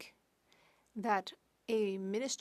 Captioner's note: speaking French